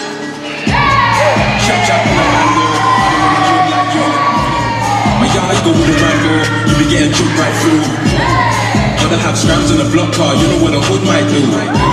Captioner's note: cheering